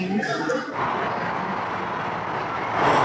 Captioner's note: bullet train passing